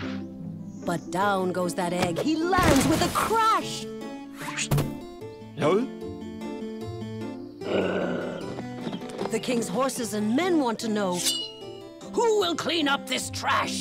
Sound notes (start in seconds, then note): 6.1 growls